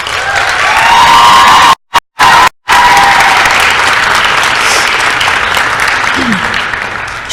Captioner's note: applause & cheering